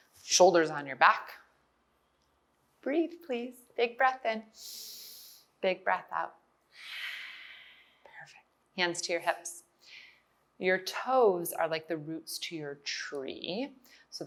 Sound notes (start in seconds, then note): 4.6 inhales; 6.7 exhales